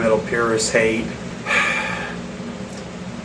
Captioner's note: heavy sigh